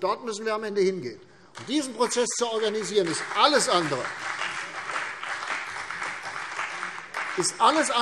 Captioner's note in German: Beifall CDU und BÜNDNIS 90/DIE GRÜNEN